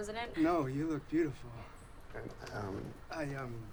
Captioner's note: stammers